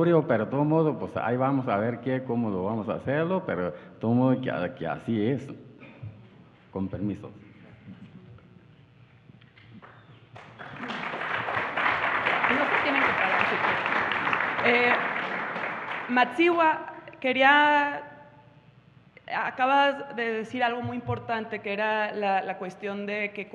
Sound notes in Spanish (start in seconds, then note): 10.3 Aplausos